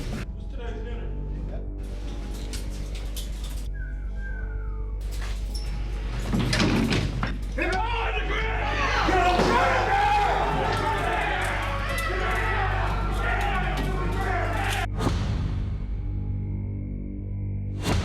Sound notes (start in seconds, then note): 3.4 whistling; 10.4 yelling